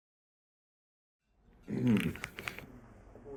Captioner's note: clears throat